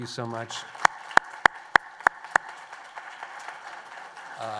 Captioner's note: applause